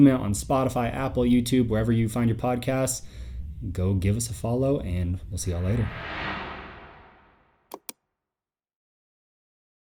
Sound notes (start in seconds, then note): 5.6 titles whoosh; 5.8 mouse clicks